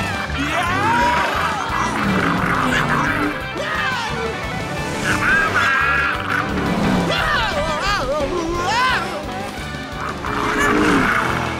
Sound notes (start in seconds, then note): 0.2 yelling; 4.7 growling; 6.7 screaming; 9.8 growling